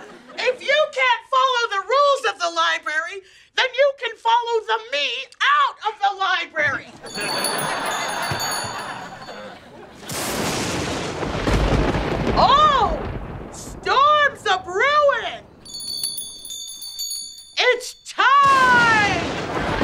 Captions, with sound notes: If you can't follow the rules of the library, then you can follow the me out of the library. [lightning cracking] Oh, storms a brewin'! It's time!